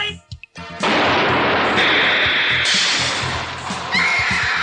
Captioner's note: SFX: explosion